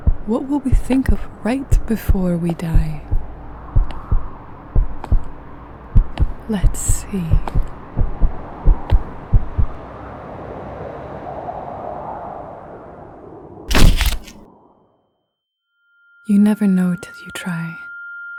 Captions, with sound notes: What will we think of right before we die? [heart beating] Let's see... [thud] You'd never known till you try.